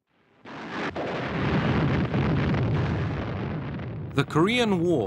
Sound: explosions

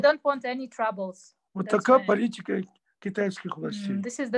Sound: in Russian

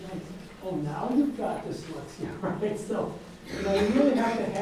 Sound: laughs

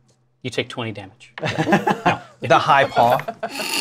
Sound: laughter

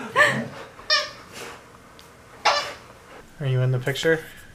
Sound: toy squeaks

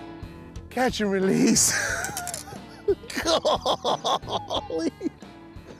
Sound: laughs

